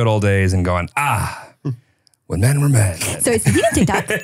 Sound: laughs

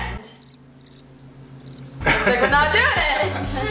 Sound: crickets chirping

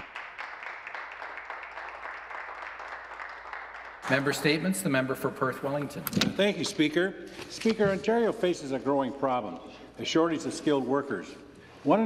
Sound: some Applause

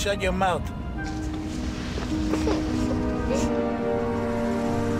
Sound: crying

